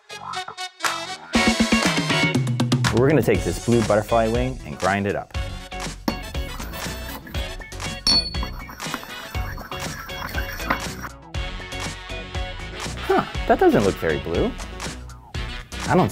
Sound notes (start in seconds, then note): 0.1 funky jazz music; 8.0 dish clinking